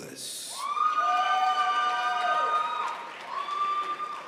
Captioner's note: crowd applauds